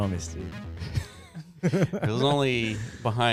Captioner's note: laughing